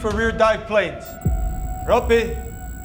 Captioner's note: text beeping